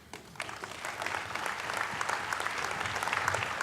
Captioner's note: applauding